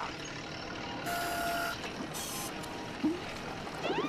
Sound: machine whirring

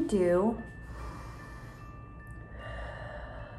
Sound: inhales loudly; exhales loudly

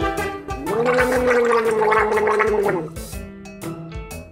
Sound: gargling

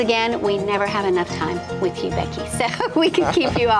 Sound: laughter

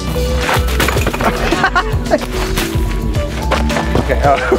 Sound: laughs

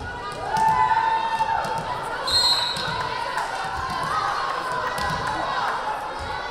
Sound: audience cheering; whistle blaring

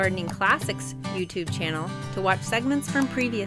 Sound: mouse clicks

